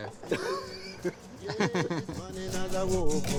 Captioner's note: laughter